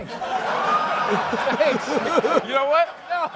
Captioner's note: laughter